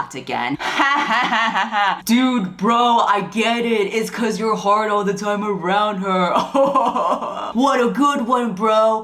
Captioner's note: fake laugh